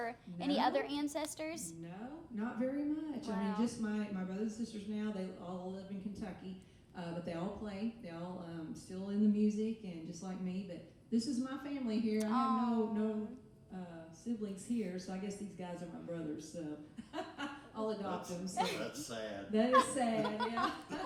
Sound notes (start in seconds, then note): 18.6 laughing